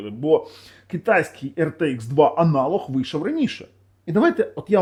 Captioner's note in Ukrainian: сопіння